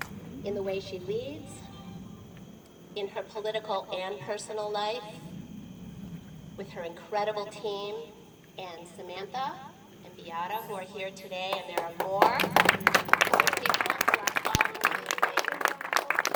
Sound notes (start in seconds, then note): 11.5 applause